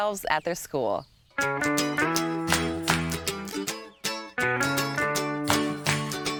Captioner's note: light upbeat guitar music; clapping